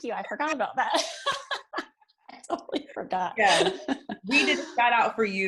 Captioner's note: laughs